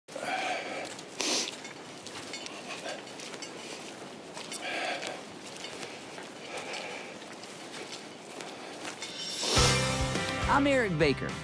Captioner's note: forest sounds